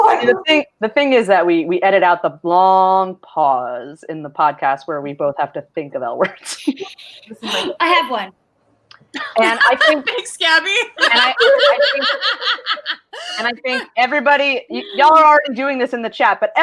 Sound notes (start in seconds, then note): 7.2 gasps; 11.0 laughs